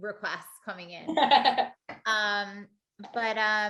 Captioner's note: laughter